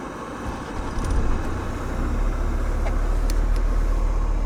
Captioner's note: car whirring